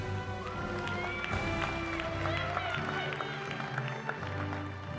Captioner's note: cheering